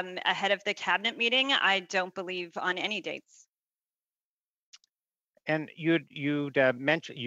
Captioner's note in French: voix de l'interprète